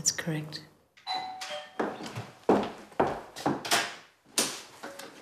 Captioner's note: doorbell ringing